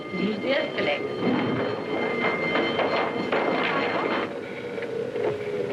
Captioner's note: alarm rings